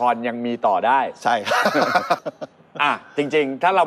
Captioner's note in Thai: หัวเราะ